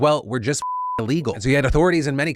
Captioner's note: beeps